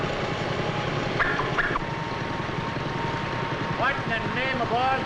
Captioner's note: pipe popping